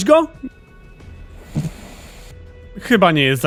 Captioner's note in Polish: chrapanie